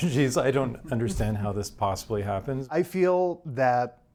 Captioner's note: chuckles